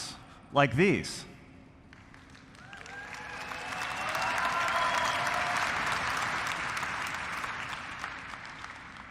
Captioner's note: applause